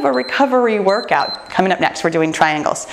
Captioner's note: timer beeps